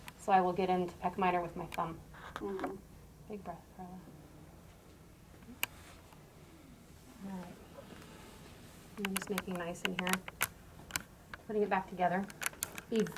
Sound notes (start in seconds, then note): 4.2 deep breath